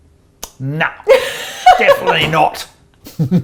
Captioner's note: laughs